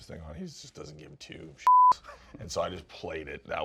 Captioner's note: beep